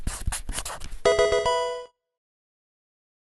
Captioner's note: pencil scratching; Pokemon game sound